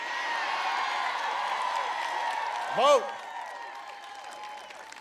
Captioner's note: applause